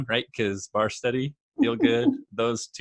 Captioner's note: laughing